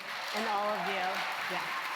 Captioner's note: applause